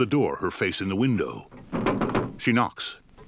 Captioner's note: knocking